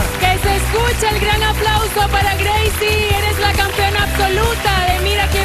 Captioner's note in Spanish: aplausos